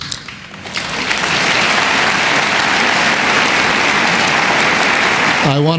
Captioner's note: applause